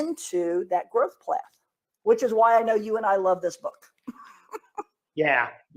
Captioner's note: giggles